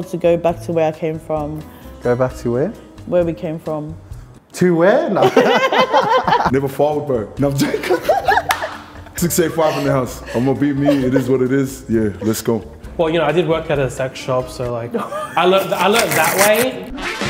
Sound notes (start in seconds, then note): 5.2 both laughing; 15.6 upbeat jazz music